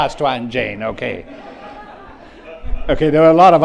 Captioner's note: audience laughs